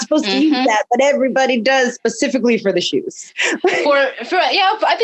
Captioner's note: laughs